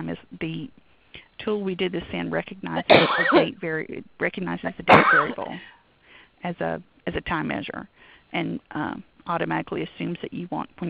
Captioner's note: coughing